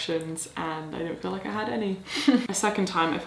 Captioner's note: chuckles